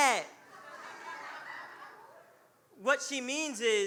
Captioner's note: audience laughing